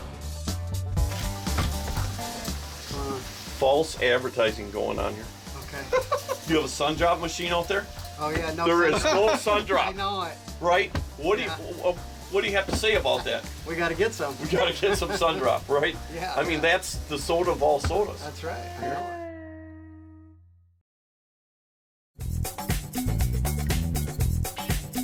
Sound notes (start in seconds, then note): 5.8 laughing